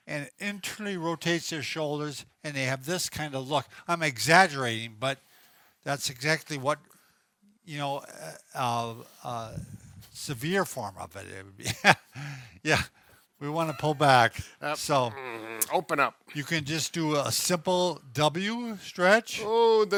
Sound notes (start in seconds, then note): 13.5 laughs